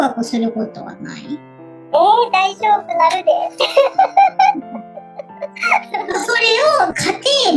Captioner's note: laughs